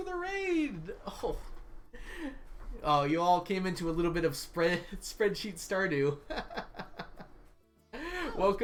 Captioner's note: laughs